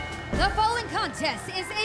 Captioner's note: bell ringing